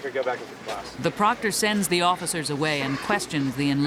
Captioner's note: voiceover